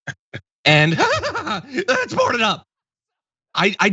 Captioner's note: laugh